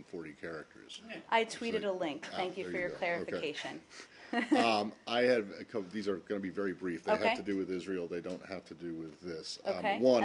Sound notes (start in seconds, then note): 4.3 laughter